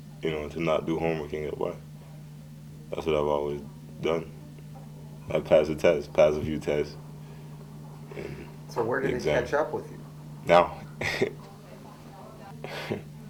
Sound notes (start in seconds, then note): 10.8 chuckling